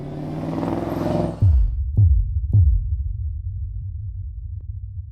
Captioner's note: car engine roars